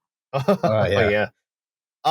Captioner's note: laughs